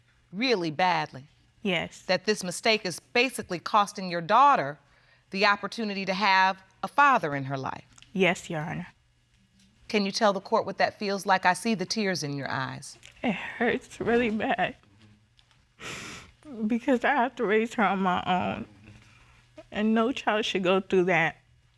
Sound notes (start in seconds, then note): 13.0 voice breaking; 15.8 sniffles